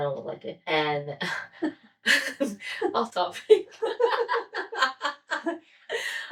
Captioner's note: laughter